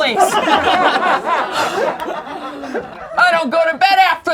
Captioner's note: laughing